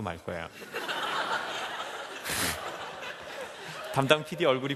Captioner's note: laughs